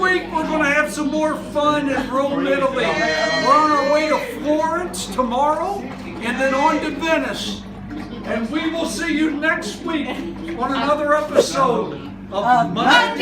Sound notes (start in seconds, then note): 2.8 cheering